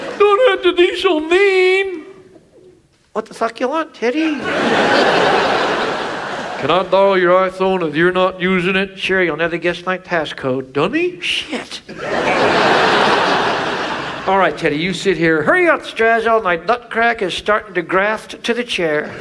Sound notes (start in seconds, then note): 4.2 audience laughs; 11.8 audience laughs